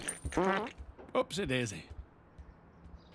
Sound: dad farting

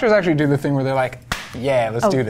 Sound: glove snapping

